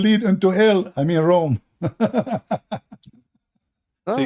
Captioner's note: Ketawa